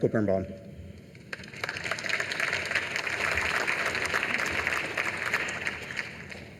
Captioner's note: applause